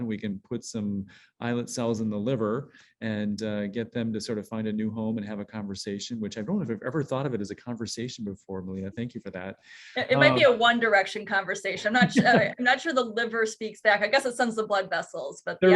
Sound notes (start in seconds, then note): 11.8 chuckling